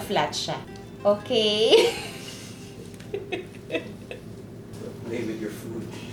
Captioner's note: laughs